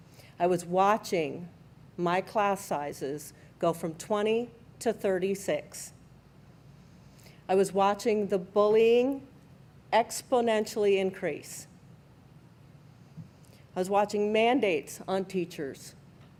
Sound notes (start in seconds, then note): none